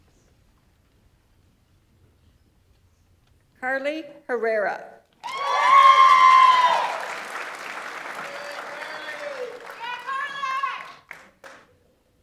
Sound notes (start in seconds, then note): 5.2 audience members cheer; 5.2 audience applauds